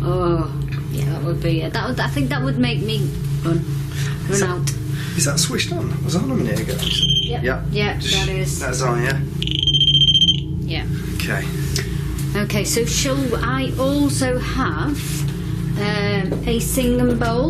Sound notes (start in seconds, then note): 11.1 beeping